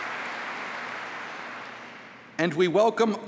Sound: applause

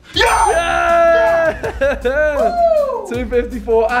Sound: laughs

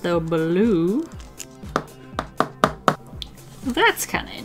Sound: tap, tap, tap, tap, tap

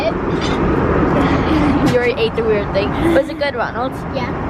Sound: laughs

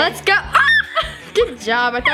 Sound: squeals

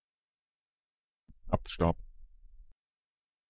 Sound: fast Pronunciation

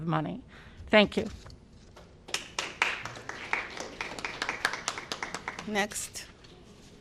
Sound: applause

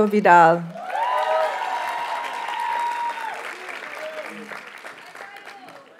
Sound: audience cheers and applauds

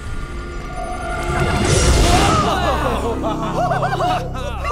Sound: cheering bats

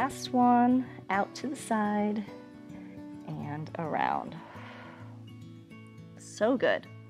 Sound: exhales

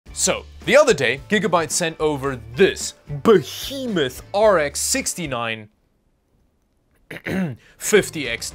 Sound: cough cough

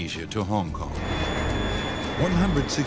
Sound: plane engine roars

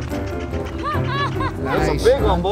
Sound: laughing

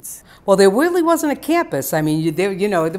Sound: voiceover

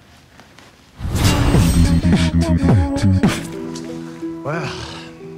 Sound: air whooshing

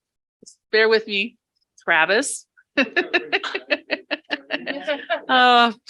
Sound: laughing

